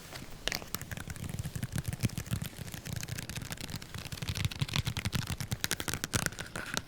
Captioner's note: soft finger tapping; nail tapping